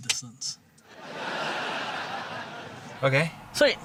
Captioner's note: laughter